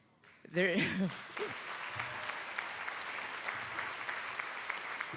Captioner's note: audience applauding